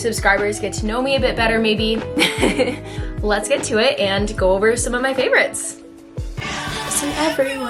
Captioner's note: giggle